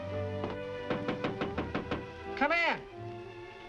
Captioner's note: knocking on door